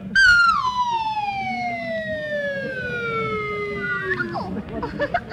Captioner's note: mallet thuds; slide whistle descending; giggles